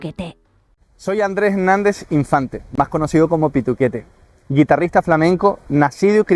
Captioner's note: speaking in Spanish